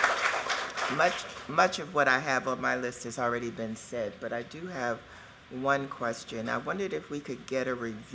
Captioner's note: cheers and applause